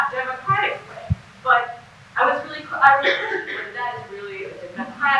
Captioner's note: cough drowns out speaker